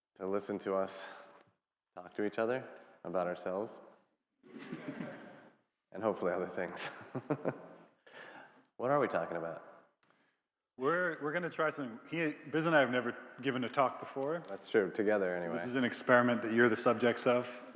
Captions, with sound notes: to listen to us talk to each other about ourselves (attendees laughing) and hopefully other things. (laughs) What are we talking about? - We're gonna try something. Biz and I have never given a talk before. - That's true. Together anyway. - This is an experiment that you're the subjects of.